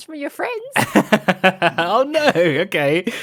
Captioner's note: laughs